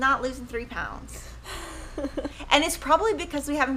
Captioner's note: laughing